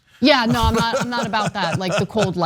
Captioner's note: laugh